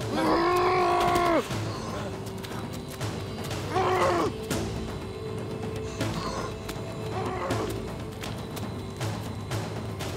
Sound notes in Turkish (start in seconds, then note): 0.4 Subutay bağırıyor; 3.2 Subutay bağırıyor; 7.0 Aksiyon müziği